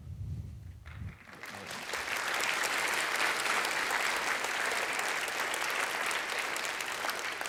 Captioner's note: applause